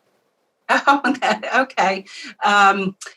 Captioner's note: laughs